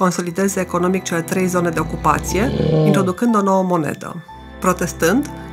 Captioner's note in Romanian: răget de urs